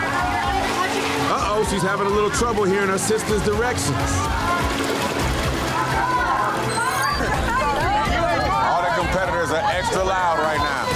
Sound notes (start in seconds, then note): 5.0 urgent music; 5.0 water splashing; 6.3 other contestants shouting; 6.6 digital beeping